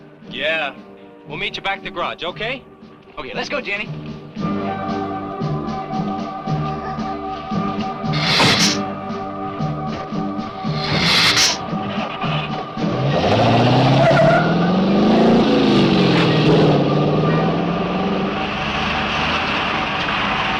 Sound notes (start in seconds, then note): 5.0 dramatic music; 8.1 lizard hissing; 11.8 engine cranks; 12.7 engine revving